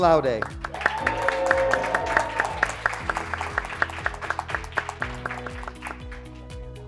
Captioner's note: graduates clapping; graduates cheering